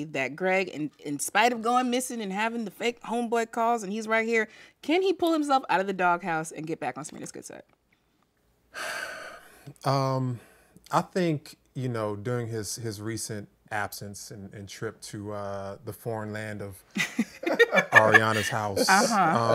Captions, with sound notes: that Greg, in spite of going missing and having the fake homeboy calls, saying "he's right here", can he pull himself out of the doghouse and get back on Serena's good side? [Sighs] Um, I think... you know, during his recent absence and trip to the foreign land of Arianna's house, [Laughing]